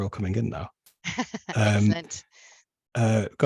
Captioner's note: chuckles